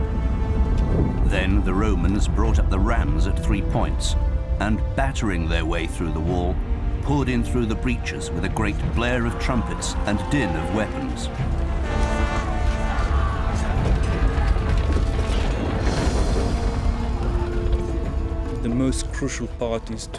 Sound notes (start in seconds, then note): 11.5 trumpet blaring; 14.3 weapons clanking